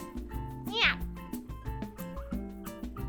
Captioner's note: meow